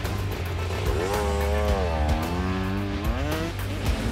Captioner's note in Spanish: Ruidos de la motocicleta